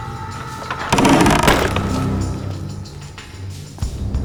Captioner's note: door creaking